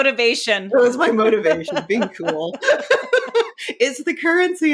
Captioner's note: both laughing